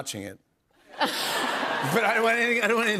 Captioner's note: laughter